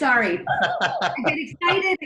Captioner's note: laughing